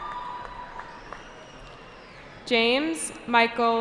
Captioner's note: cheering